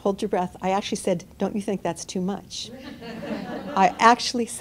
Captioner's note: laughter